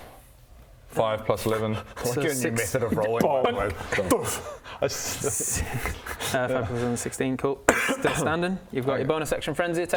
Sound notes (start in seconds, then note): 3.0 bonk